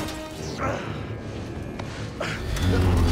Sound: groan

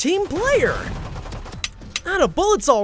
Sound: gun firing; gun clicking

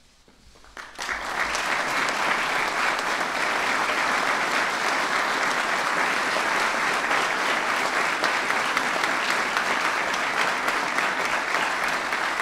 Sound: applause

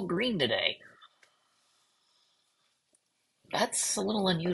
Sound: silence

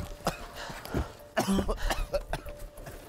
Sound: coughs

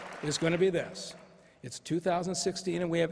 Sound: applause

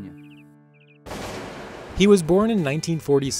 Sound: gun firing

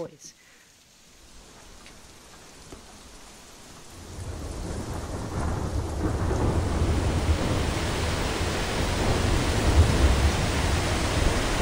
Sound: the sound of many waters

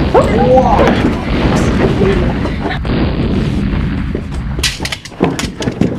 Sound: explosions, confused shouts

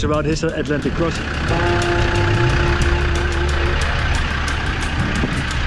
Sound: engine running

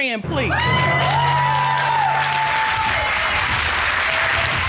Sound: cheers and applause

